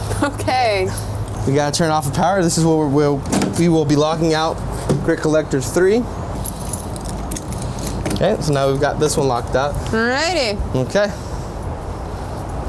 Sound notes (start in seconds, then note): none